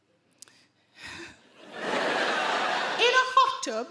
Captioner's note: Sarah sighs; audience laugh